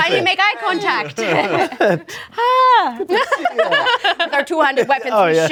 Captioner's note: group laughs